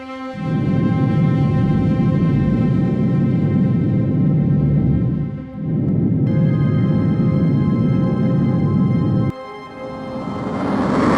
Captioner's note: sq6 rocket sounds